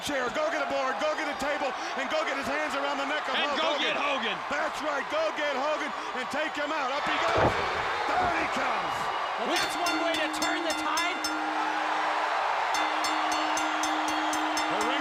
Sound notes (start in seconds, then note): 9.4 bell ringing; 12.0 crowd cheering; 12.8 bell ringing